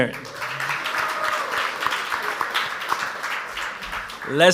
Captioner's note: audience applauds